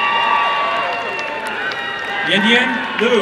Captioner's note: applause and cheering